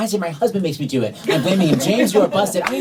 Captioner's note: laughter